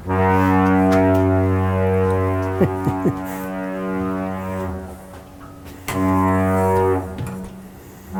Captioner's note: boat horn goes off followed by lift bridge horn